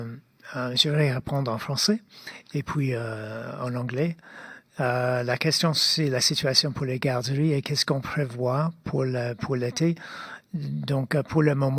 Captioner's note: speaking French